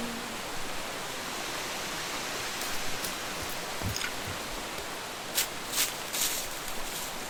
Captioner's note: steps on the grass